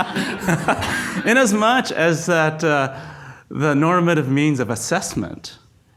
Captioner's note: laughs; audience laughs